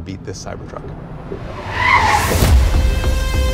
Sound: yacht screeching to a halt

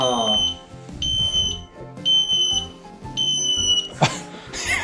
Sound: beep...beep...beep

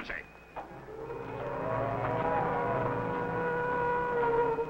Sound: sirens wailing

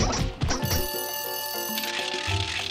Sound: bell ringing; tickets clicking

